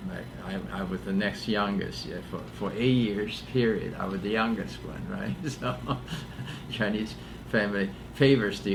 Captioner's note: laughs